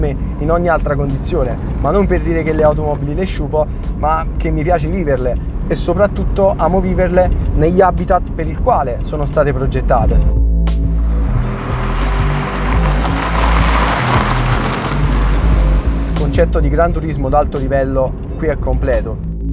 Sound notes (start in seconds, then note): 13.3 wheels on dirt road